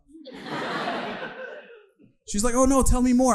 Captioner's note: audience laughing